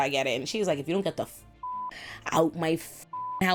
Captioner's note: beep